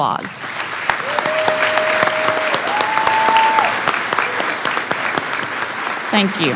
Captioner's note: clapping